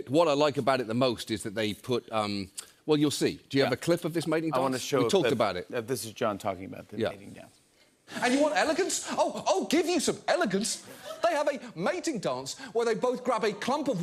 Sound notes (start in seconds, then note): none